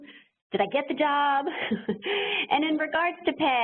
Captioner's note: laughs